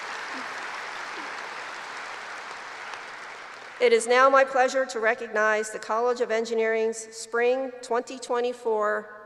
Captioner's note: applause